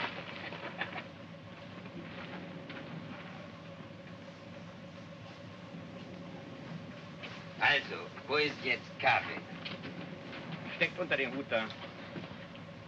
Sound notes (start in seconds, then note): 7.4 speaking in Russian